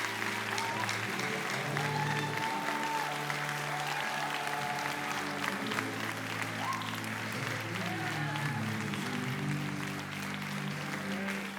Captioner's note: applause